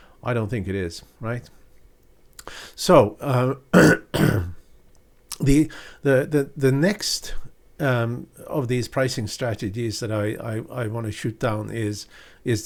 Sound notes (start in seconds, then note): 3.7 clearing throat